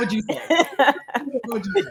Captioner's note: laughing